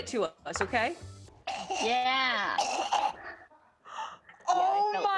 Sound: gagging

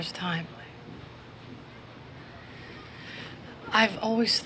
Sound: inhales deeply

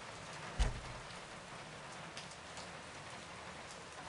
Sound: door closes

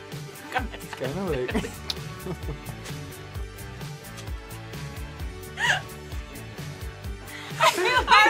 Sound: group laughs

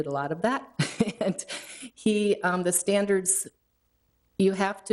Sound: chuckling

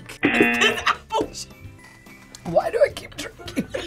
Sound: buzzer; laughs; group laughs

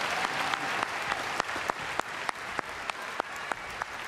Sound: applause

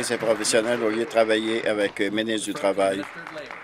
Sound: applause

